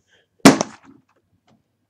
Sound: thud

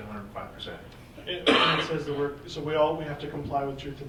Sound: person coughing drowns out speaker

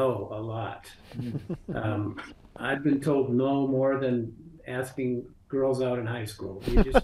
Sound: background chuckles; background laughter

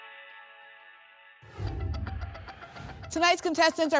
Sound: whoosh

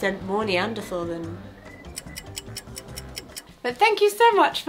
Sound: clock ticking

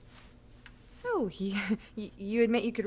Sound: chuckles nervously

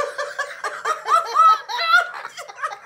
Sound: lots of laughing

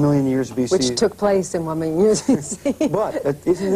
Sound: laughs

